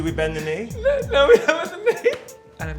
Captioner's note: laughs